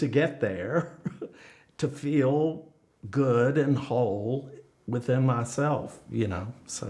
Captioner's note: laughs